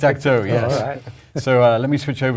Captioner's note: laugh